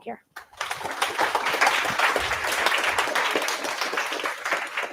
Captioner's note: applause